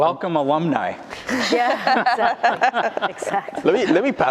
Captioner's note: laughter